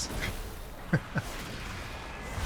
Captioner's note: laughs